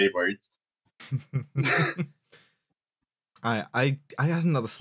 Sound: chuckles

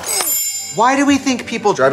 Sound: chimes

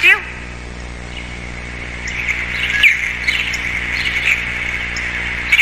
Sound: birds chirping

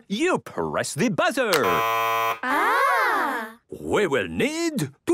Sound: buzzing

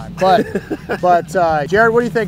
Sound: laughing

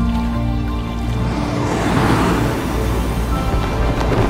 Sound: sound of water softly splashing; zooming sounds and Hot Air Balloon Flames going up; wind hitting the balloon

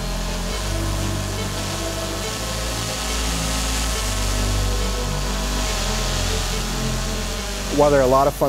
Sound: drone rotors buzzing

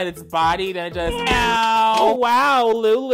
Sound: man meows

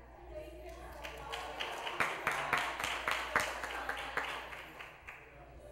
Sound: applause

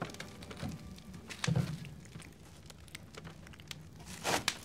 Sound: suspenseful music; fire crackling

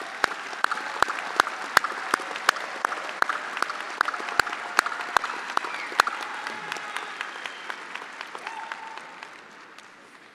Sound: attendees applauding

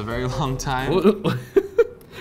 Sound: laughs

